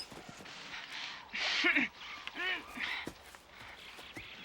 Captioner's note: girls groaning